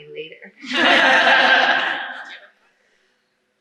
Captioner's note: laughter